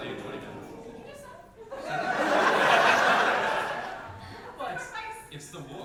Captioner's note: big audience laugh